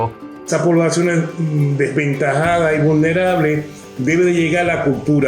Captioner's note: speaks foreign language